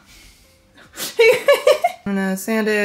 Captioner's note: laughing